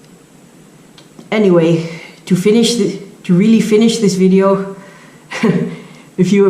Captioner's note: chuckle